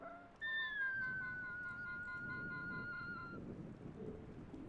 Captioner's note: birds whistling